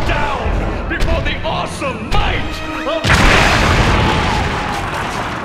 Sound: explosion

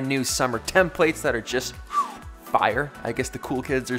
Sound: whistles

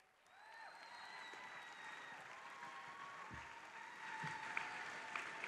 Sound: audience applauding

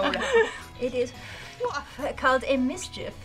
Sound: laughing; breathes air

